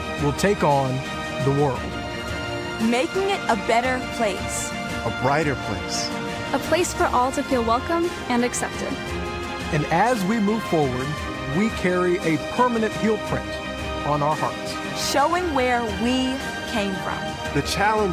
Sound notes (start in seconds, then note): none